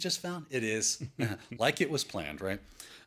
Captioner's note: laughs